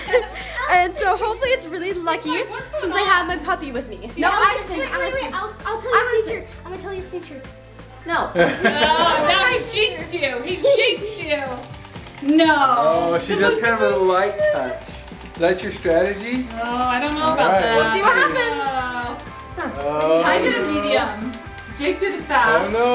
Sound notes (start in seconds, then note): 8.3 laughing; 11.6 wheel spinning